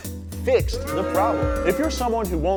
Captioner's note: booing; chuckles